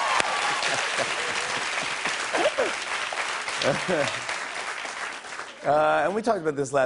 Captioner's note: cheers and applause; laughing